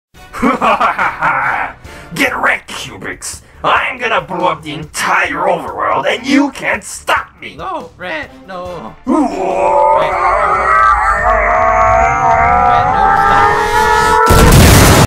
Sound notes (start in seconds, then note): 9.1 begins the scream; 13.5 yelling